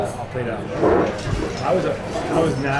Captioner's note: background chatter